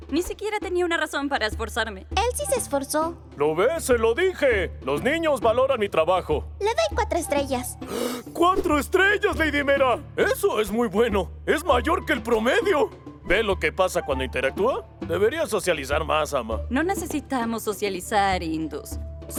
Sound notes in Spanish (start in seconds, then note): 7.8 ¡Jadeo!